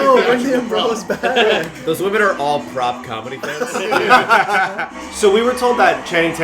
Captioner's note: laughter